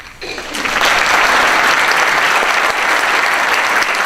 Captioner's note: applause